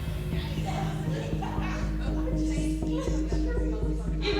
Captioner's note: indistinct chattering